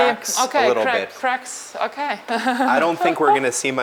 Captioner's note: chuckles